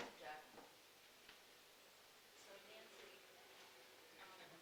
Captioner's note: panelists chattering